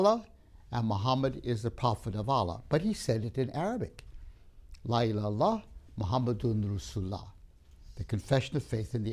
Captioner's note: Arabic